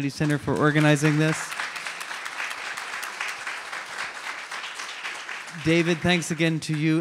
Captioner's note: audience applauds